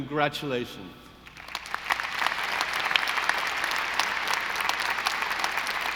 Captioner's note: audience applauding